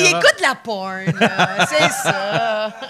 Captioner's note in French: rires